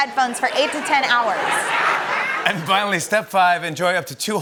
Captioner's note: laughter